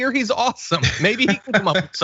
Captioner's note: laugh